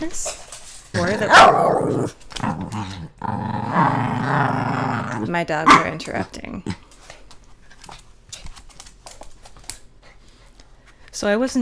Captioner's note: barking